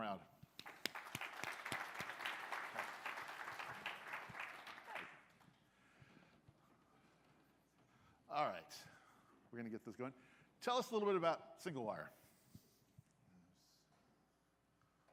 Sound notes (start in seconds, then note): 3.3 applause